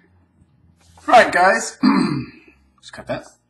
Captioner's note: clears throat